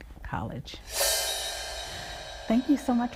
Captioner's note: footage whooshes